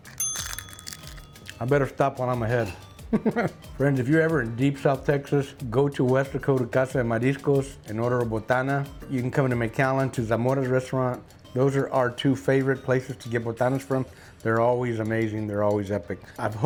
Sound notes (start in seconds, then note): 3.1 laughs